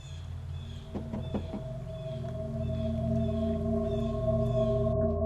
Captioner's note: ominous music; knocking on door